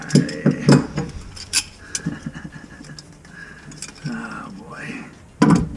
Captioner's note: chuckles